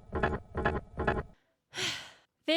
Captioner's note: deep sigh